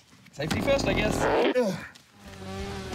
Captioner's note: grunts